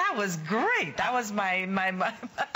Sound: laughter

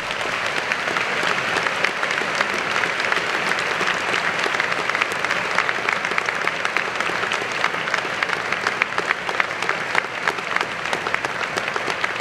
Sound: applause

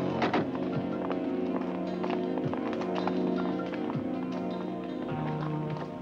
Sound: pattering footsteps; doors clattering

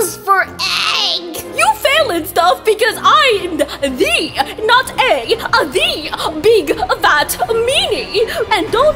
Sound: as Cooking Mama

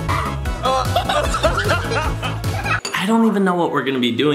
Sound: laughs; laughing

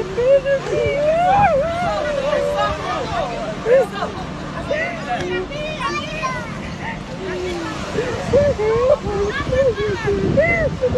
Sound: sobs of Spanish women filming

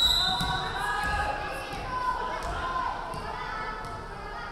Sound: referee whistling

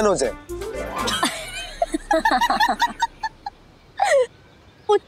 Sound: laughter

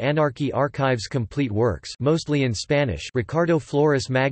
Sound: mostly in Spanish

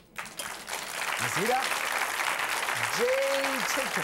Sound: audience applause

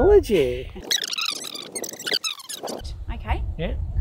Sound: tape squealing

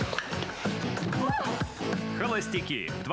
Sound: shouts

